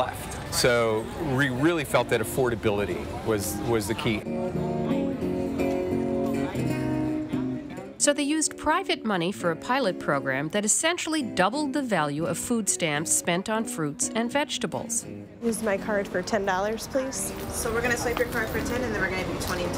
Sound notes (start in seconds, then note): 4.0 background chatter; 4.0 guitar strumming